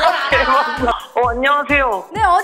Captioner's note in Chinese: 高兴